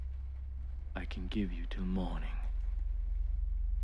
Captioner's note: none